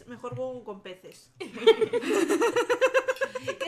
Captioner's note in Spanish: risas